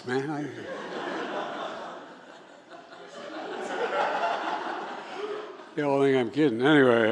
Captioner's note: laughter